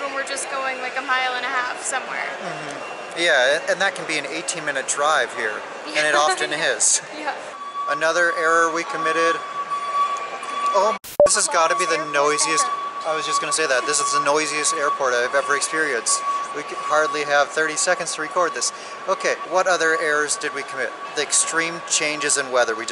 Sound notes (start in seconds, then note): 9.3 loud beeping